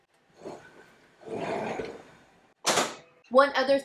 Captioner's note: clattering